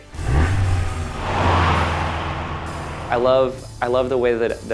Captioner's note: engine revs